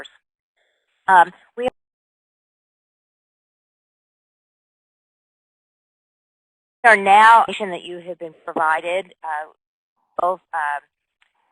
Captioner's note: audio gap